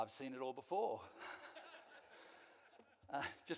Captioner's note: some of the audience laugh